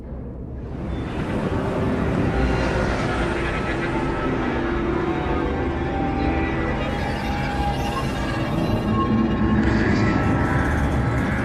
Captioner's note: menacing dream noises